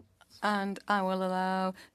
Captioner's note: speaking French